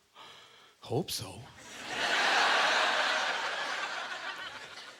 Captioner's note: audience laughter